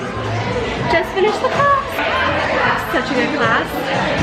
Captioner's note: crowd chattering